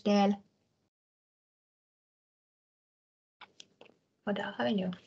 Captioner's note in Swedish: Tystnad